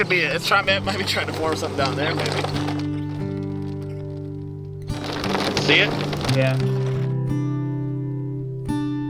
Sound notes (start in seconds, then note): 2.8 hail pattering; 2.8 soft guitar music